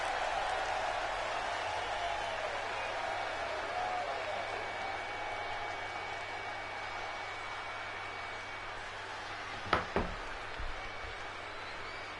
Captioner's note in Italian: Applauso